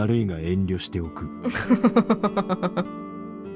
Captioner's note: chuckles